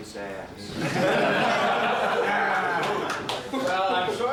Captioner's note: group laughing